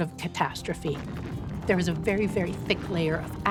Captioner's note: buildings and walls rumbling